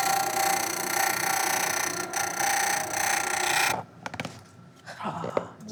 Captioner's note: sanding, grinding